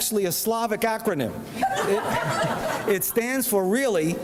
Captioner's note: audience laughs